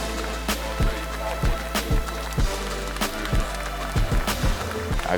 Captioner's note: audience clapping